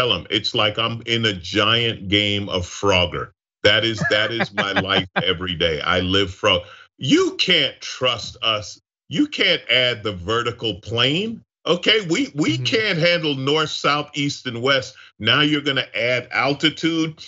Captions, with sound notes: I tell them it's like I'm in a giant game of frogger. That is- >> [LAUGH] >> That is my life every day, I live from, you can't trust us, you can't add the vertical plane. Okay, we can't handle North, South, East and West, now you're gonna add altitude.